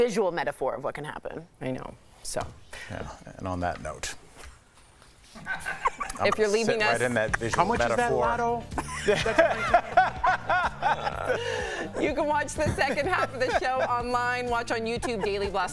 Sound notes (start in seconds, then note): 8.7 laughter